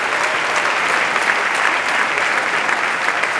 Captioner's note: applause